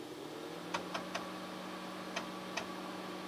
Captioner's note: sweet sweet whirring sounds